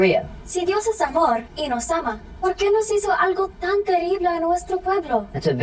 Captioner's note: Maria speaking Spanish